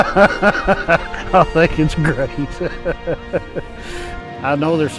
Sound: laughs

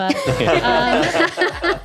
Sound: laughter

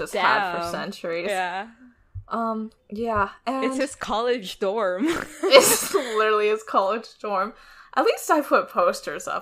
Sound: laughs

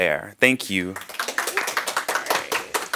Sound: applause

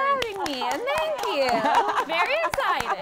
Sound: clapping

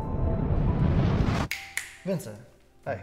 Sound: snapping fingers

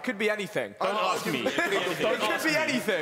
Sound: chattering

